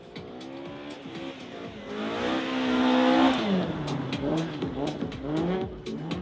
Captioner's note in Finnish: moottorien pärinää